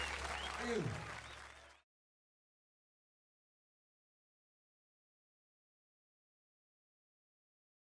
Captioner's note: cheering and applause